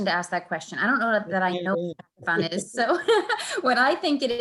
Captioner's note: laughs